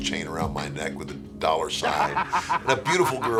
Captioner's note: laughing